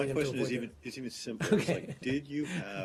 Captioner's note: laughter